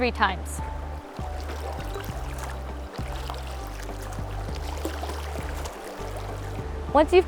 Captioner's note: sound of stream flowing and water swishing in cup